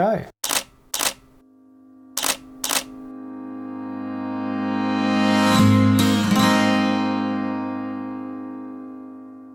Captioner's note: camera shutter clicks and music swells